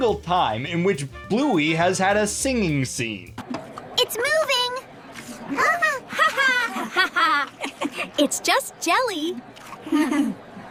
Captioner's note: distorted laughter